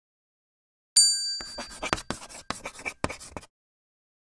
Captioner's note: bell dings